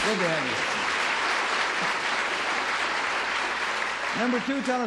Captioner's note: applause